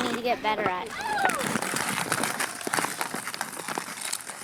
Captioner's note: ice crunching